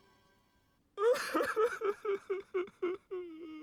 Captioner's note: sobs